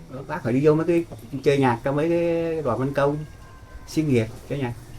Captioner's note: speaking foreign language